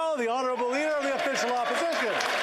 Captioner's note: applause